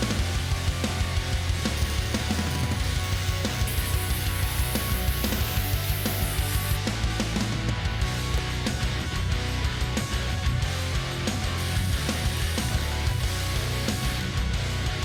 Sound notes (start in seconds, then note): 1.5 intense rock music continues; 1.7 tools whirring